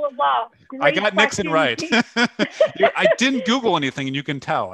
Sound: laughter

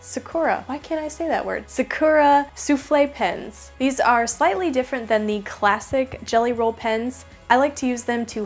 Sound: souffle

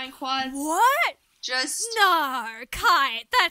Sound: sarcastically

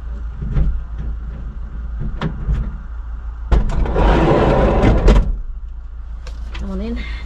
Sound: key sounds in van door and sliding door bangs open loudly

